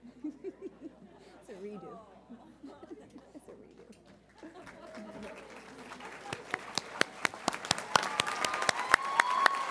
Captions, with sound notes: (chuckles) It's a redo. It's a redo. (audience applauding)